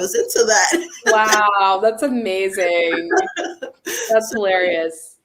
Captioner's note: laughs